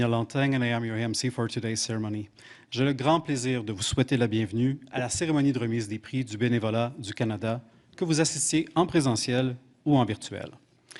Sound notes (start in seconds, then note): 4.9 speaking French